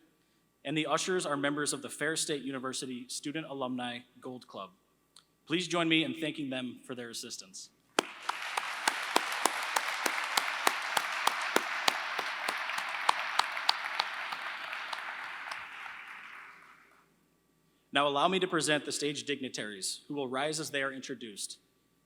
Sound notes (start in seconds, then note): 8.0 applause